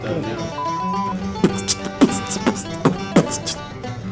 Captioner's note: beat boxing